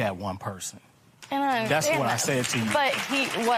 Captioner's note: applause